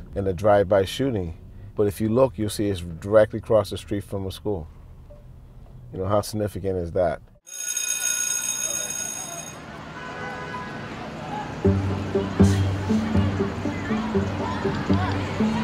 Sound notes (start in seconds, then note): 7.4 school bell rings; 9.6 students chattering